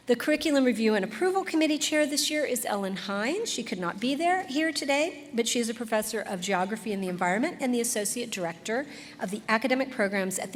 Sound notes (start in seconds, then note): none